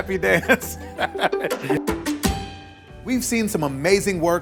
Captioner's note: laughs